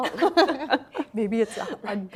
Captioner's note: laughing